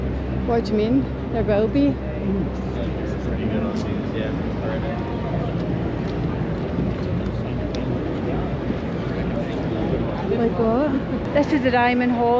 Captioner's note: street noise